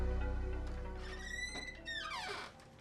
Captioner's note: door squeaking loudly; light piano music